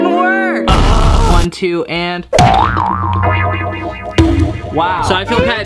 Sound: banging

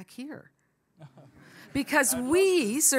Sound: audience laughs

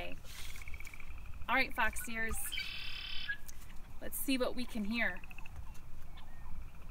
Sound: bird call; bird call

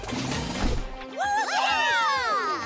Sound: all cheering

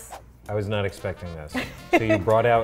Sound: laughs

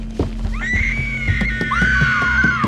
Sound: screaming

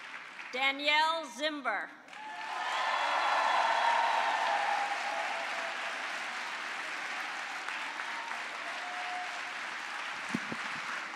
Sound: cheering and applause

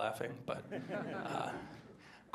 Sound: laughter

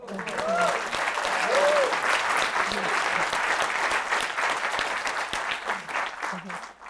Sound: applause

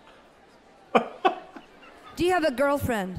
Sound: laughs

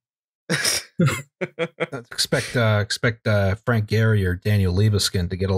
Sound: laughter

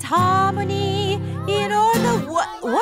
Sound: commotion

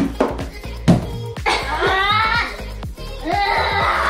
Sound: laugh

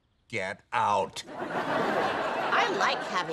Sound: audience laughing

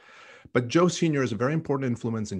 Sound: none

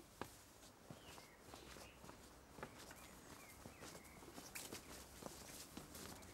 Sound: sounds of nature

